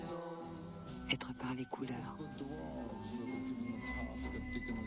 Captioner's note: speaking french